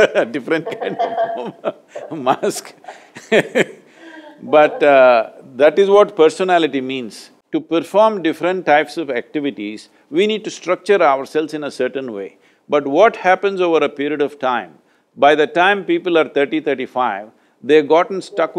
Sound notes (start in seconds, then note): 0.5 laughs; 0.5 both laugh